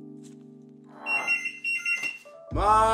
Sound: phone blaring

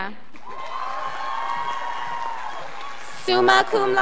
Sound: scholars applauding

